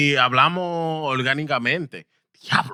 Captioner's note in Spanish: Hablando en idioma extranjero